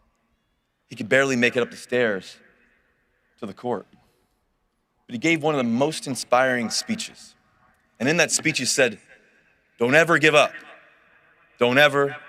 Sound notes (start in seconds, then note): none